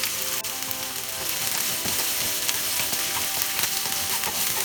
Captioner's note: food sizzles